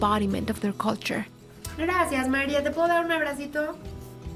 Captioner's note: speaking Spanish